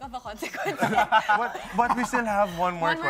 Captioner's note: laughing